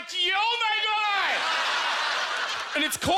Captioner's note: audience laughter